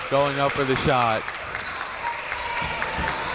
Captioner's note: clapping